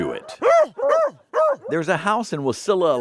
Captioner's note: dogs barking